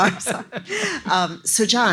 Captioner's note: laughs